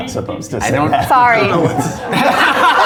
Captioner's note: all laughing